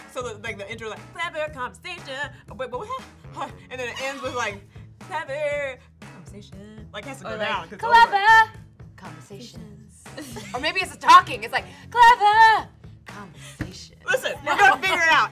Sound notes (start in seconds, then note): 10.1 laughter